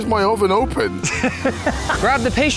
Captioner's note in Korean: 웃음